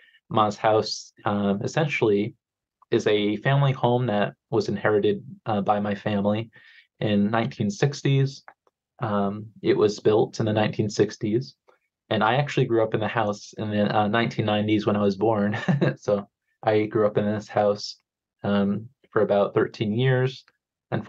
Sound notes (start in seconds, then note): 15.4 chuckles